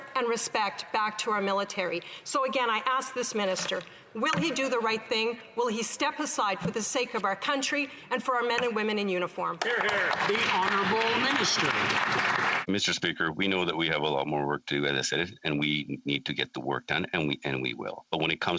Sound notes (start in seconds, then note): 12.8 some Applause